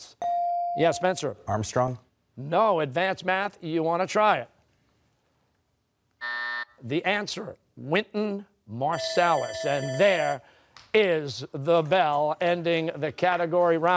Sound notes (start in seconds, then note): 6.2 buzzer; 8.9 bell rings